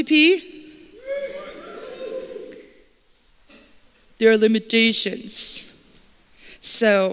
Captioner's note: cheers